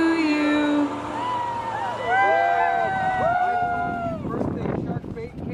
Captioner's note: all cheering